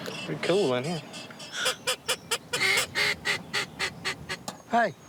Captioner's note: blowing duck calls